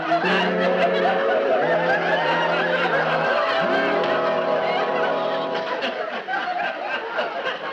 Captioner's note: audience laughing; music fading out